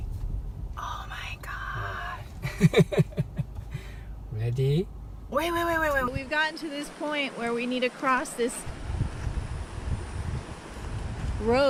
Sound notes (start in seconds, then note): 2.4 laughing